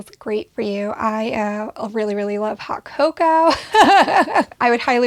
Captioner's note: laughs